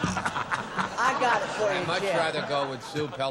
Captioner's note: laughter